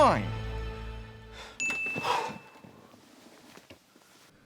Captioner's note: sighs